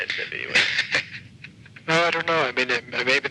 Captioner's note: laughing